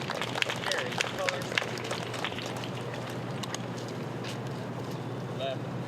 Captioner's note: applause